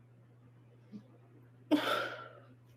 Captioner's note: sighs